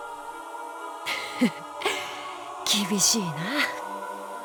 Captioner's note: chuckle